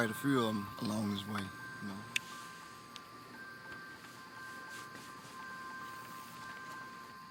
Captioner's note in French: bruit de réconfort